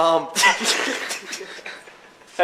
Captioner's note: laughs